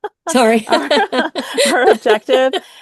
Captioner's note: both laughs